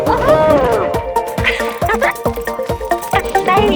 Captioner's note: D.O.R.I.S. laughs